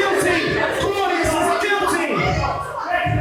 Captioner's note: Claudius and Gertrude arguing